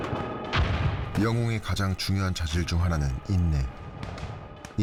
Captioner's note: sound of shell firing and explosion